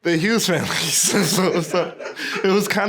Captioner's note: laughing